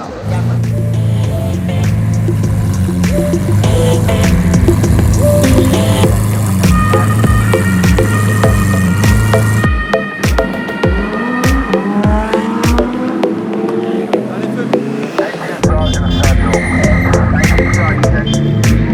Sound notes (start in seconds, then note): 0.6 engine roaring; 8.4 police siren; 10.8 engine roaring